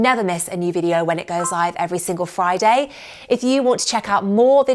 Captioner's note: bell dinging